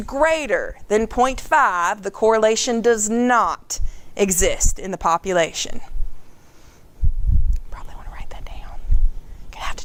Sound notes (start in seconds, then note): 5.2 whispering